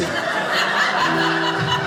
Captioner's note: audience laughing